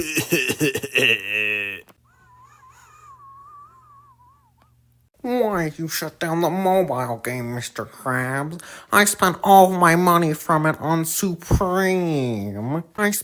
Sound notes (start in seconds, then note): 4.4 whistling